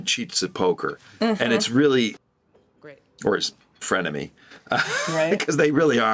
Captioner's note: chuckles